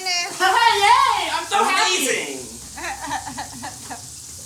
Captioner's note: laughs